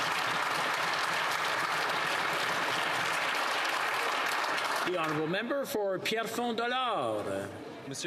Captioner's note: some Applause